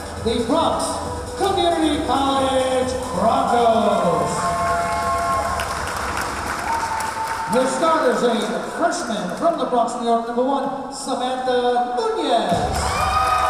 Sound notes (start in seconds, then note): 4.6 clapping; 5.1 cheering